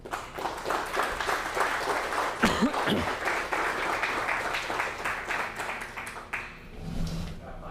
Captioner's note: applause